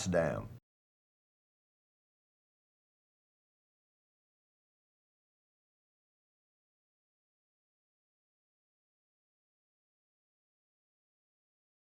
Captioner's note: silent